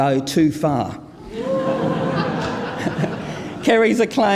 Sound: audience laughing

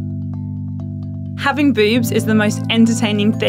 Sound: voiceover

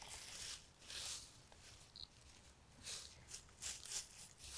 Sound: leaves rustling

